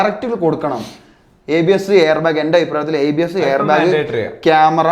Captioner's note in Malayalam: ചീറ്റുന്നു